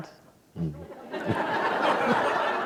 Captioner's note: laughter